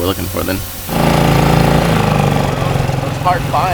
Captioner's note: motor boat whirring